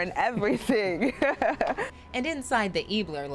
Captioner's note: laugh